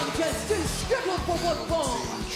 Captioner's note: bell ringing